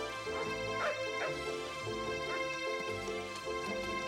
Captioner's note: Nero barking